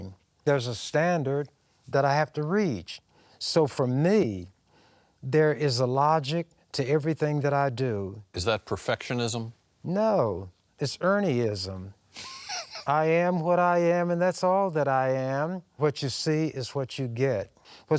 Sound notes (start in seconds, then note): 12.2 laughing